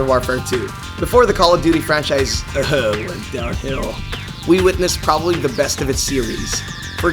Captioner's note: ehems